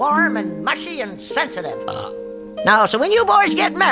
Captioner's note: belches